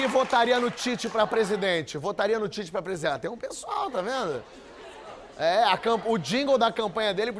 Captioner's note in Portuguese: aplausos